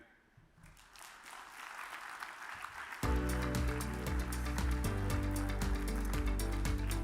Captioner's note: audience applause; uplifting music